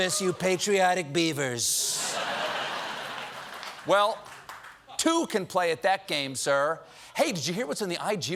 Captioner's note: laughter